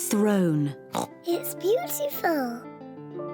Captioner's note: oinks